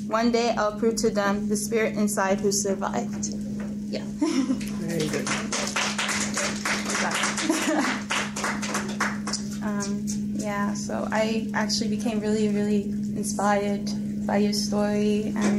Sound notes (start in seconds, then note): 4.1 laughs nervously; 4.3 crowd applauds; 6.9 laughs